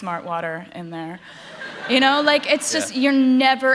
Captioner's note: laughter